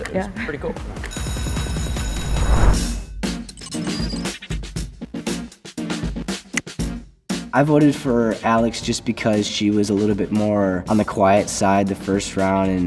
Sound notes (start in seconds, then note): 1.1 bell ringing; 3.3 upbeat music